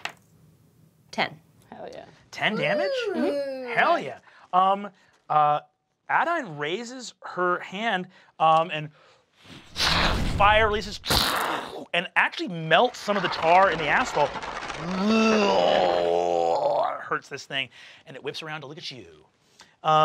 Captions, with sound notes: (die clacks) 10. - Hell yeah. - 10 damage? - Ooh! - Hell yeah. Adaine raises her hand and (whooshes) fire releases, (mimics smashing) and actually melts some of the tar and the asphalt. (roars) Hurts this thing, and it whips around to look at you.